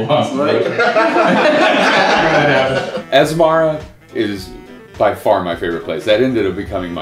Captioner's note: laughter